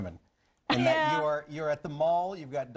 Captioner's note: laughing